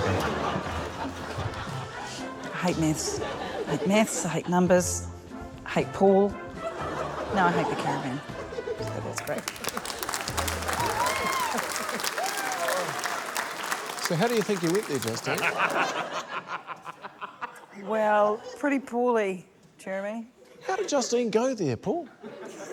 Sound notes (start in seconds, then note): 12.1 cheering, applause; 19.2 laughter